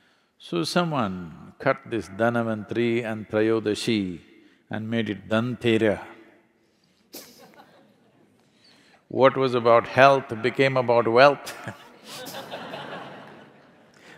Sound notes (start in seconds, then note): 7.2 laughs; 11.4 laughter